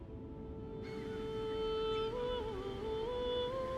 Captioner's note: squawking